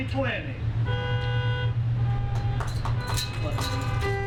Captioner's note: horns honking; clapping